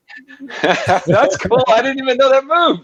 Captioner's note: laughs